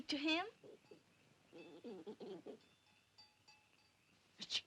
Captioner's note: monkey grunts softly; Mowgli chitters